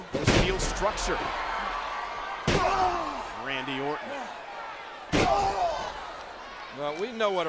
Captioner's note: applause